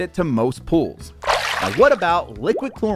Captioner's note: splashing tone